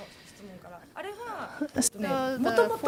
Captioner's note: speaking japanese